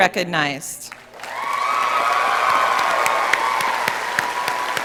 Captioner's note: audience cheering